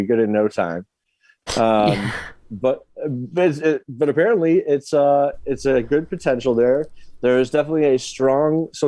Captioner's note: stammering